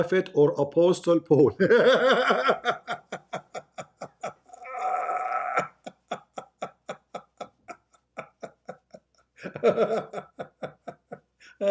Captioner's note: Ketawa